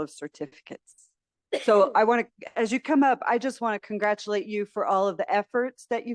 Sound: sneeze

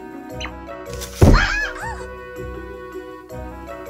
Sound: crashing Sound

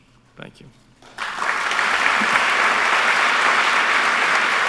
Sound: applause

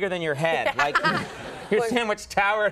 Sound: audience laughs

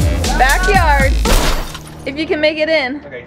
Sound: glass breaking

